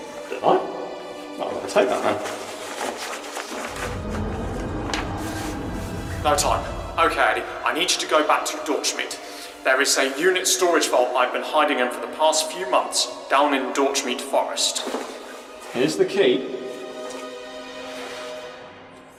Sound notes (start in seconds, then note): 2.3 rustles plastic in pocket; 3.6 tardis engines groaning